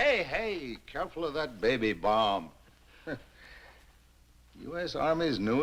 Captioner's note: chuckles